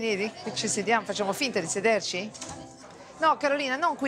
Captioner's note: speaks in Italian